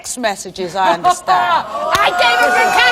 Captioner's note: audience cheers and applauds